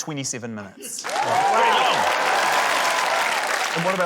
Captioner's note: cheering, applause